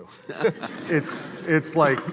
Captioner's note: audience laughing